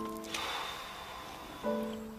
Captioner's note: sighs